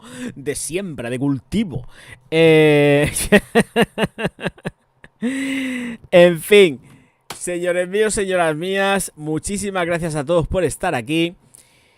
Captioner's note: laughs